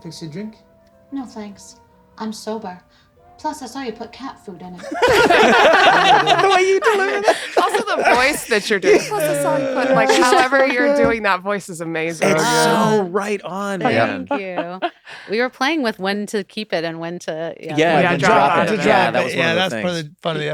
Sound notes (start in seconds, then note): 6.3 laughter